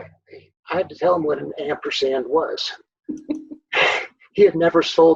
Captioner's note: both laughing